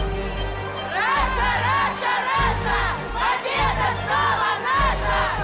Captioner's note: dramatic uplifting music continues; chanting